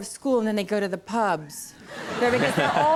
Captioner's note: audience laughing